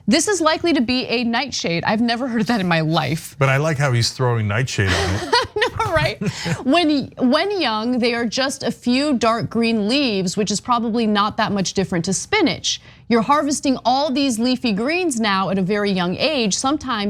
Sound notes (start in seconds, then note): 4.6 laugh